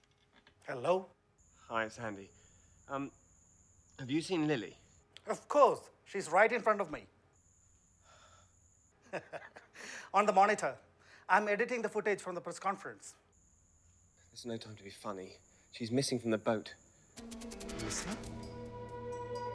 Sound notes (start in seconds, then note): 9.1 laughs; 17.2 dramatic music